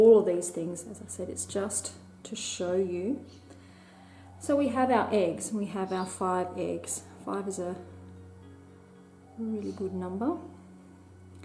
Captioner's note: bird Chirp